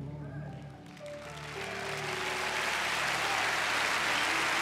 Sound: cheers and applause

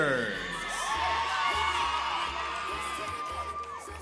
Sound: cheering

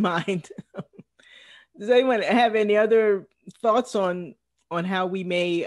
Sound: laugh

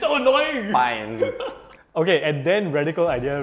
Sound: laughs

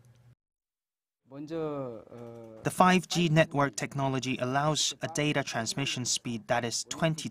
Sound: Korean

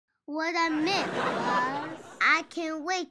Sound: audience laughs

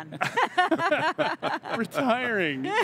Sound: all laugh

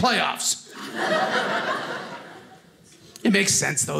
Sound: audience laughing

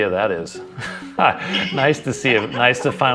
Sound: light chuckles

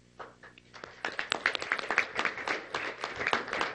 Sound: clapping

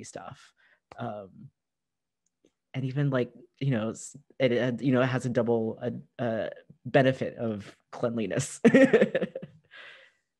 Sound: laughter

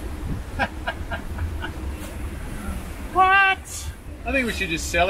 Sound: laughs

